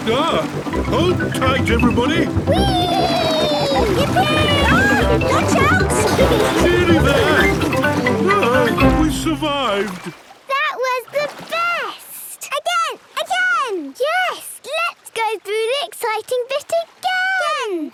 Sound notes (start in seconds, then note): 2.5 George giggles